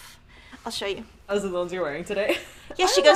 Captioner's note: laughs